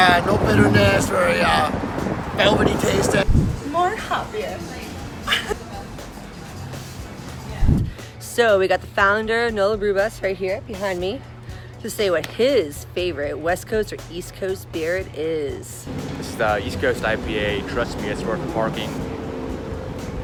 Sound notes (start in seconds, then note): 3.7 laughs